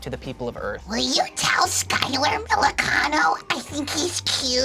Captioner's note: screeches